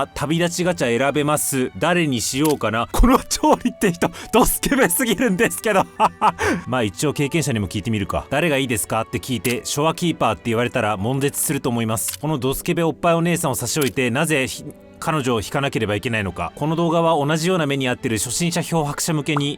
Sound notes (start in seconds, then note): 5.8 sniff